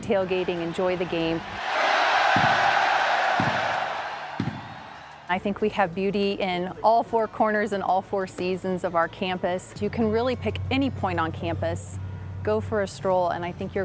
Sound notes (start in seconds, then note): 2.5 crowd cheering; 4.4 fireworks